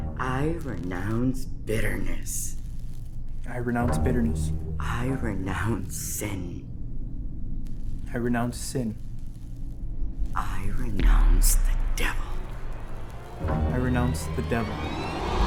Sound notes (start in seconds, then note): 0.0 lights buzzing; 6.2 dark, ominous music; 12.2 lights buzzing